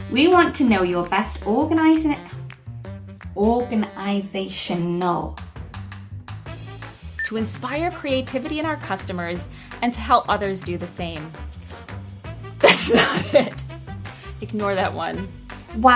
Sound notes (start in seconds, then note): 12.6 laughing